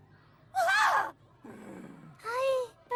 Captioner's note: growling